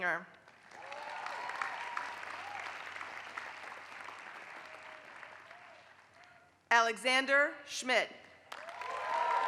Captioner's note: applause; applause